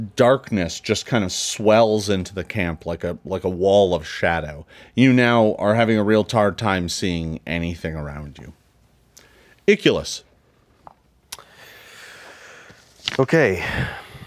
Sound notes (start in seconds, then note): none